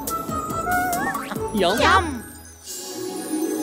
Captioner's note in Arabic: موسيقى مرحة; صوت مرح